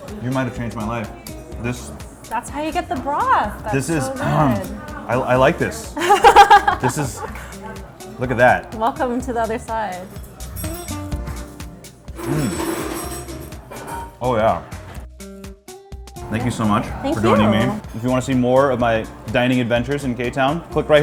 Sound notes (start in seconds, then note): 6.0 laughs